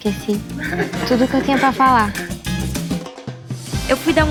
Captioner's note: people laughing